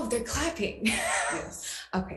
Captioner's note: laughs